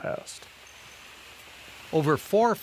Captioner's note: water misting sound